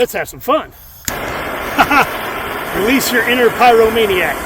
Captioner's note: blowtorch burning; click